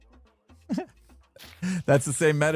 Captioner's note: giggle